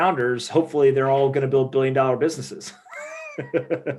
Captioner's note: laughing